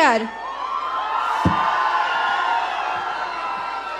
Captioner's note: audience cheering